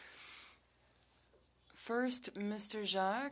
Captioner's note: speaking French